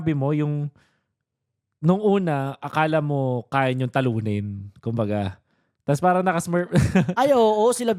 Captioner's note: laughs